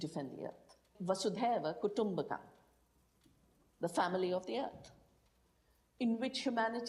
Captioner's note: voiceover; speaking in foreign language